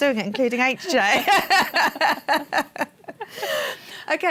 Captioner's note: laughter